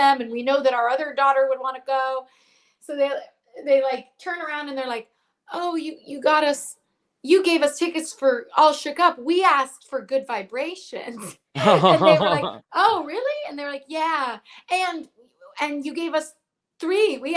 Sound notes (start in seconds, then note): 11.5 chuckles